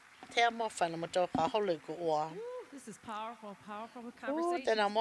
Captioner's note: applause